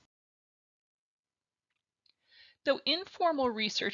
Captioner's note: silence